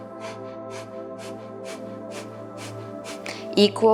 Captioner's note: exhaling; inhaling